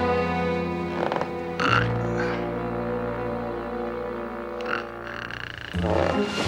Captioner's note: floor creaks; he snores